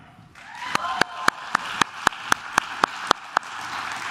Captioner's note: claps